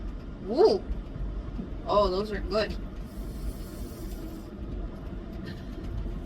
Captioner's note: inhales loudly